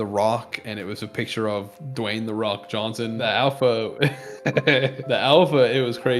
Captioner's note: ehehehe